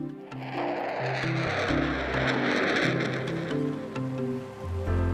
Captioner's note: jet engine roaring; inspirational music